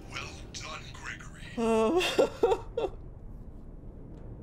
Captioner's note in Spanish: se ríe de dolor